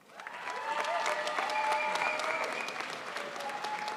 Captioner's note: crowd applauds